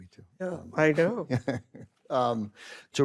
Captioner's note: ben laughs